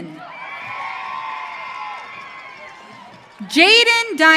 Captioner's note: audience cheering